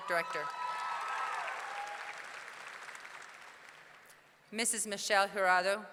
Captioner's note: audience cheering; audience clapping